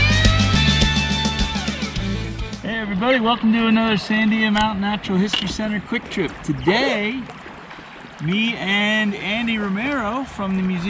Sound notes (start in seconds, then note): 0.0 rock music; 1.8 water rushing